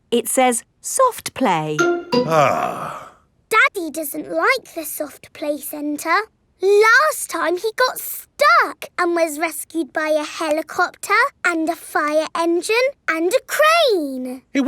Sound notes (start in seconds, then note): 2.3 sighs